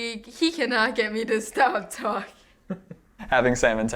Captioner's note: laughing